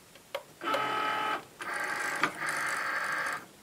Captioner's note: whirring